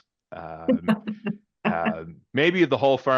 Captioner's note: laughs